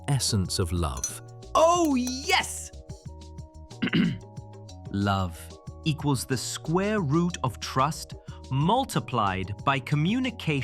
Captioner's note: clearing throat